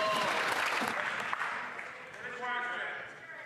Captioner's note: some Applause